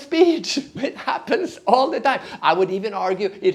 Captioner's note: chuckling